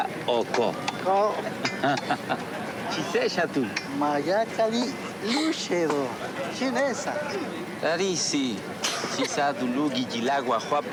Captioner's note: speaking in Spanish